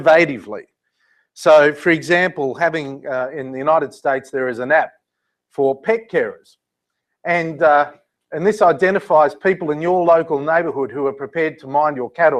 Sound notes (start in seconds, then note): none